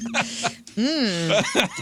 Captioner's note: laughter